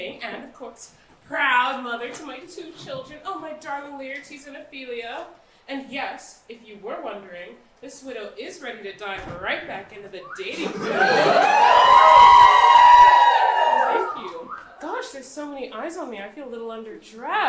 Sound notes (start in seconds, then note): 14.0 audience cheers